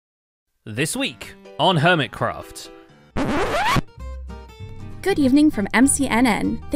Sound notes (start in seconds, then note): 3.2 record scratch